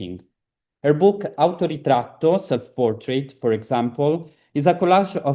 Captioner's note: italian